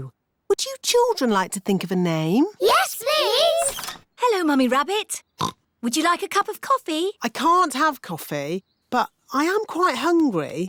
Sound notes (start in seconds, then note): 5.4 oinks